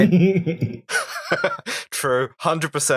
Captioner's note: laughter